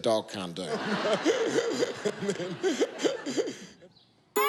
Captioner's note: laughter